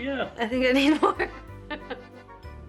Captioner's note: laughter